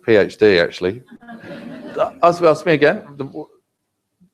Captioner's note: laugh